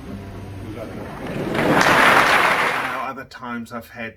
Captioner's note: audience applause